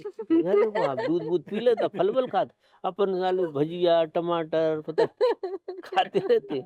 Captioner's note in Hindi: हंसी